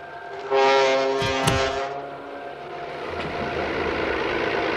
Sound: gears creaking; dramatic music

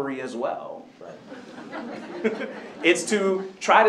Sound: laughter

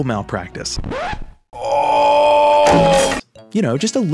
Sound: record scratch; crashing noises ensue

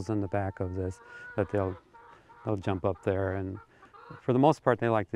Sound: chickens clucking

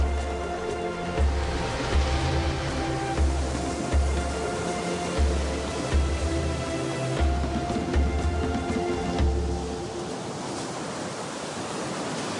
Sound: sounds of ocean waves

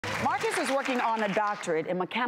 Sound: audience clapping

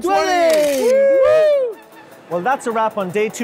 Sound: men cheering

